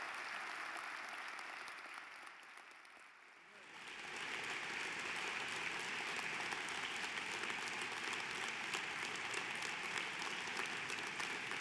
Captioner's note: applause